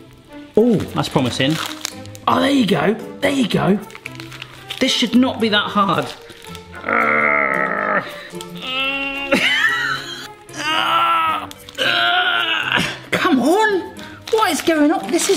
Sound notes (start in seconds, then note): 6.6 groaning